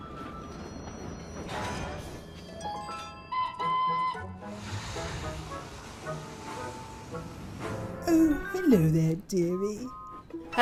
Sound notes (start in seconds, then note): 0.0 charlie whistles